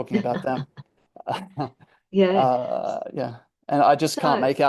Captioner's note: laughs